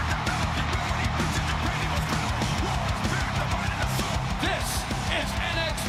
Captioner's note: crowd cheering